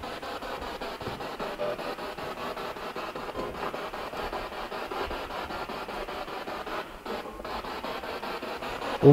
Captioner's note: noise of the spiritbox in the background